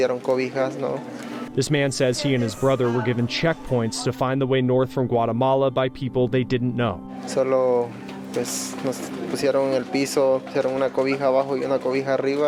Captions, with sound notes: This man says he and his brother were given checkpoints to find the way north from Guatemala by people they didn't know. (speaking in foreign language)